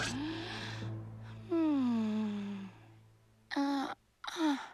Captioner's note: sighs sleepily